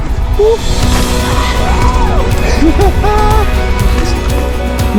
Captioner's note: both exclaiming; joyful music